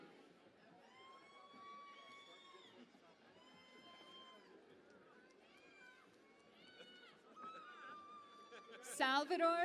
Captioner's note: cheering and Applause